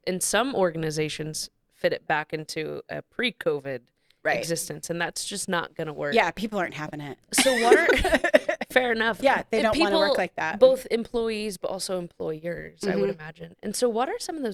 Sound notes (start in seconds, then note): 7.4 laughs